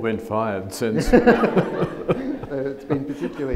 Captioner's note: audience laughs